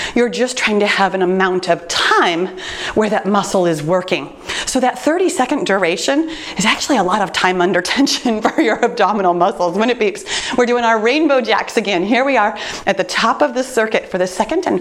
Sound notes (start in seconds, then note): 8.5 chuckles